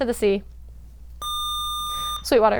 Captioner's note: buzzer